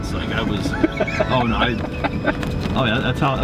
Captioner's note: laughing